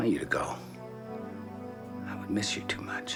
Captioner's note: none